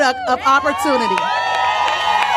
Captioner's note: applause